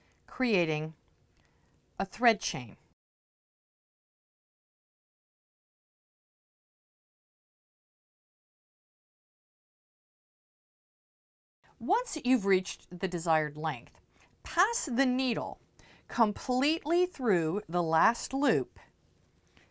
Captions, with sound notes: creating a thread chain. *No Sound Present* Once you've reached the desired length, pass the needle completely through the last loop